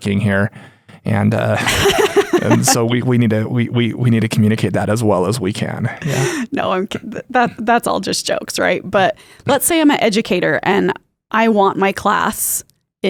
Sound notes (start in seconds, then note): 1.5 laughs